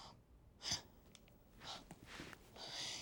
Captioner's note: inhales sharply